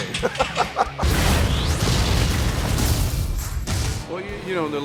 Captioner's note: explosion blast